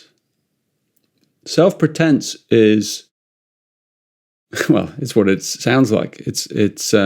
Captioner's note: chuckles